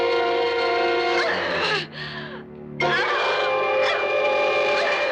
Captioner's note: grunting